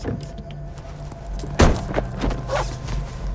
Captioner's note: tense music; door slams; tense music